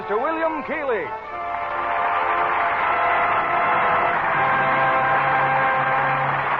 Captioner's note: applause